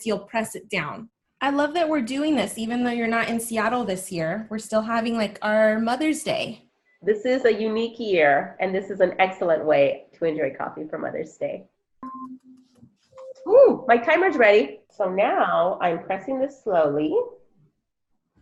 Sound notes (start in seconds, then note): 12.0 timer beeping